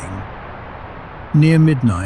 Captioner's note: whumph